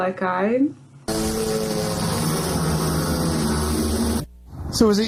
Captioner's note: motorcycles